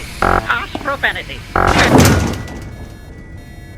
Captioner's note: door slam